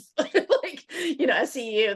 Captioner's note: laughter